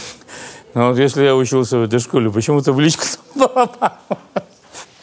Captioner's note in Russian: сквозь хохот